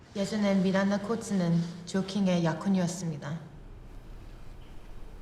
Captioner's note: speaking Korean